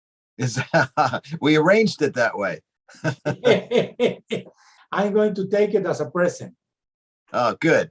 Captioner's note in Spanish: reímos